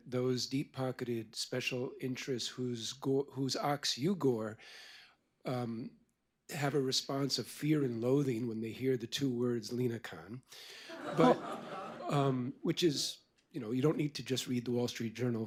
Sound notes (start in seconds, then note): 10.8 laughter